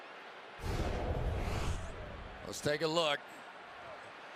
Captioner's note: swoosh